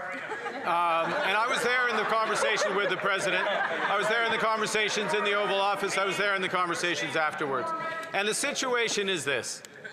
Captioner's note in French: voix de l'interprète